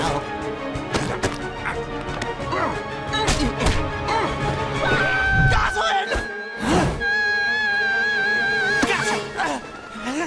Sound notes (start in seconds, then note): 4.8 screams; 8.2 screaming